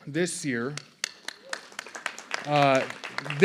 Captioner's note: applause